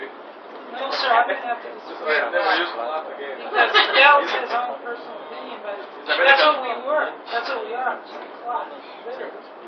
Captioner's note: gülüyor; konuşmalar